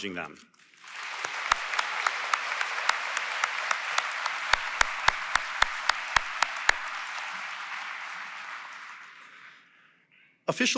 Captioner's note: applause